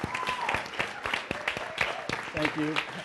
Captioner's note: applause